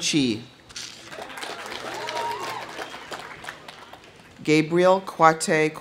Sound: audience applauding; audience cheering

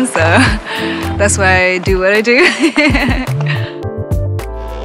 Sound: laughs

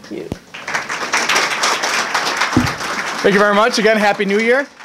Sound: applause

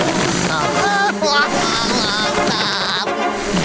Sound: laughing

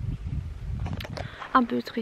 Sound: camera being handled

